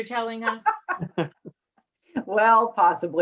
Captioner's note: all laughs